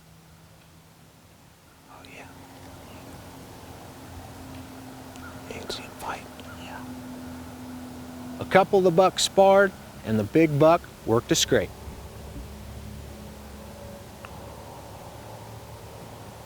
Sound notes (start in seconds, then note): 0.9 whispering